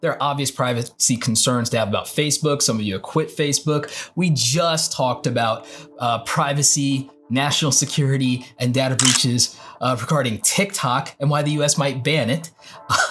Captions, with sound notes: There are obvious privacy concerns to have about Facebook. Some of you have quit Facebook. We just talked about privacy, national security, and data breaches (camera shutter clicking) regarding TikTok and why the U.S. might ban it.